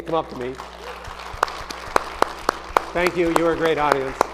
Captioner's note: audience applauding